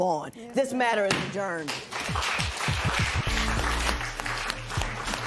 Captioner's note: applause